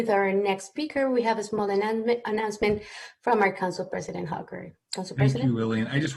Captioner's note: speaking spanish